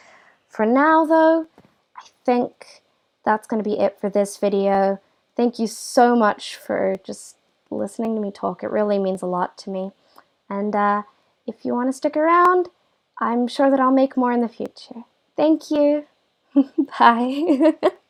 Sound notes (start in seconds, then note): 17.3 laugh